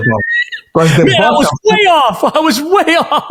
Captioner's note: laughing